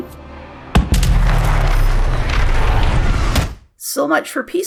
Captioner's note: explosion